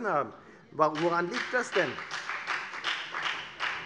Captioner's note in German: Beifall bei der FDP